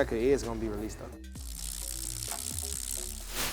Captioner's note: buzzing tone